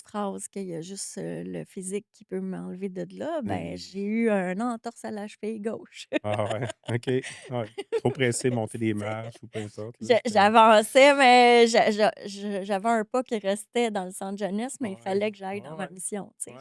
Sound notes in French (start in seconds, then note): 6.2 rires